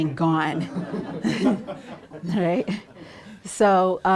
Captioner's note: audience laughs